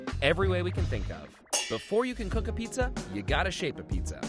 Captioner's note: metal clangs